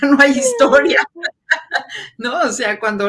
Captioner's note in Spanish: ríe